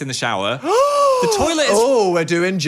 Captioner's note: gasps